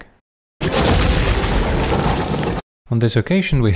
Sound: thunder

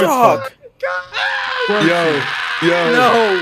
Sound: group screaming

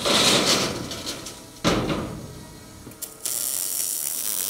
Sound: metal sliding; welding torch buzzing

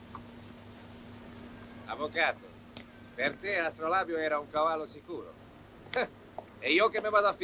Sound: Spanish accent

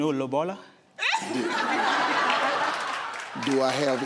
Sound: audience laughing

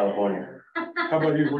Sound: laughter

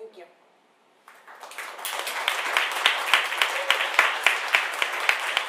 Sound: audience applauding

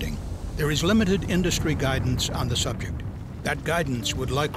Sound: sound of roaring flames

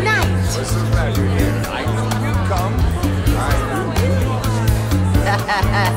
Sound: ensemble members chattering

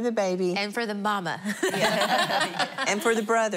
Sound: laughter

